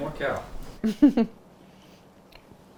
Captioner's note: laughs